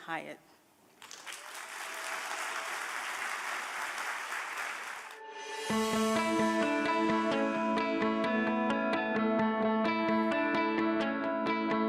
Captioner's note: applause